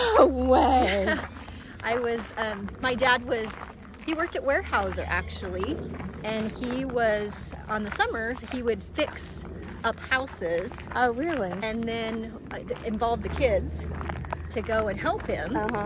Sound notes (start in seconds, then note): 0.9 wind whooshing in the background